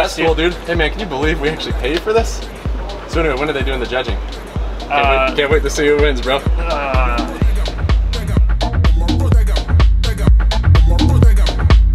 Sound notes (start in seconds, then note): 6.5 groans; 8.5 bass music